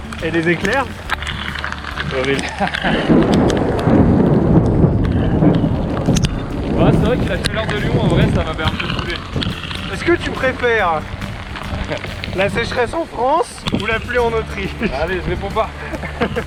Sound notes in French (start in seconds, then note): 3.1 tonnerre